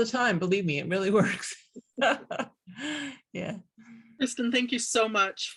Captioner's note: both laughing